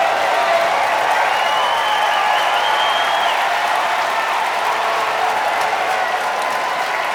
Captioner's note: applause and cheering